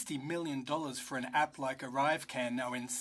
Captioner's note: speaking French